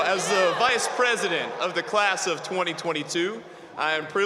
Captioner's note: cheers and applause